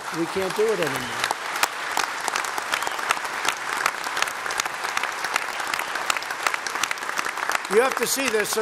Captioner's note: applause